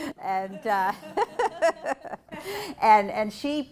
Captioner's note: laughing